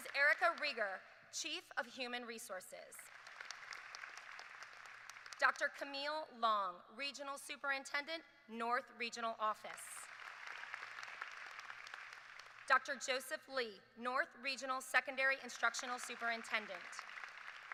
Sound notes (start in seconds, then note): 5.5 applause; 9.6 applause